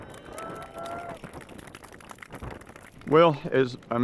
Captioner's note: crowd cheering